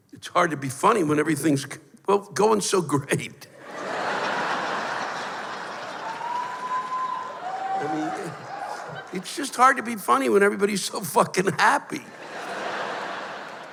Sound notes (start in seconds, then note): 3.6 laughter and whoos; 12.0 laughter